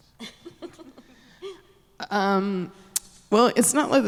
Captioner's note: giggling